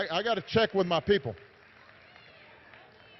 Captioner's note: applause